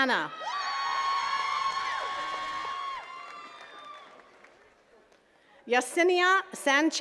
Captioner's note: attendees cheering and clapping